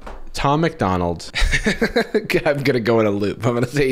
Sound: laughs

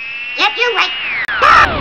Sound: screaming

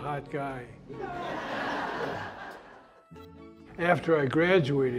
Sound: laughter

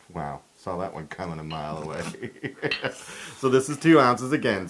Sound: laugh

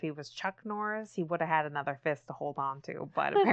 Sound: laughs

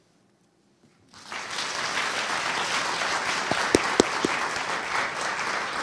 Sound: audience applauding

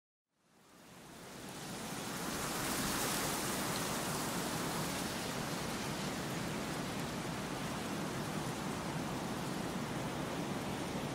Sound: relaxing Wind Sound

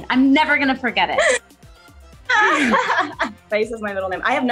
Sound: laughing

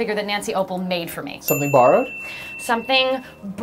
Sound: ding

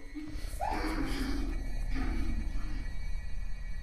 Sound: guttutal noises; feet dragging on the floor

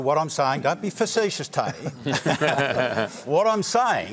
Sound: laughter

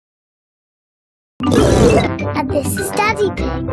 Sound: flangered snort

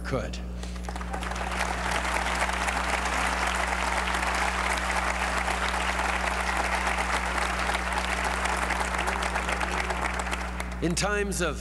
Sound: applause

